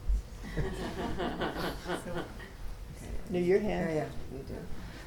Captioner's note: people laughing